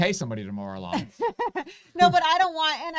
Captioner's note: laughs